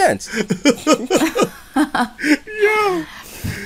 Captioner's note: laughter